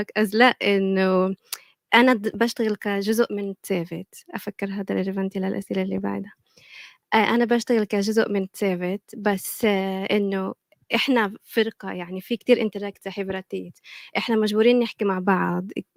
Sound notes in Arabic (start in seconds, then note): 2.6 لغة أجنبية; 8.3 لغة أجنبية; 12.8 لغة أجنبية